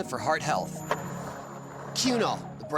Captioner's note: skateboard wheels roaring